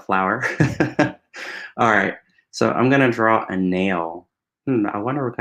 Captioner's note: laughs